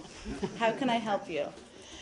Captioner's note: laughter